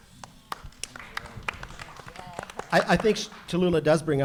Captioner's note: audience applauding